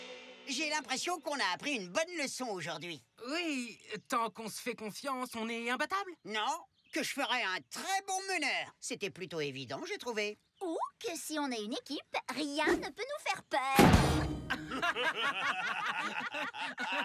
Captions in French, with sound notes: J'ai l'impression qu'on a appris une bonne leçon, aujourd'hui. Oui, tant qu'on se fait confiance, on est imbattables ? Non, que je ferais un très bon meneur ! C'était plutôt évident, j'ai trouvé. Ou, que si on est une équipe, rien ne peut nous faire peur. [ils rient tous]